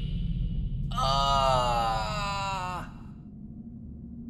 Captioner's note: ahhhhhhhhhh!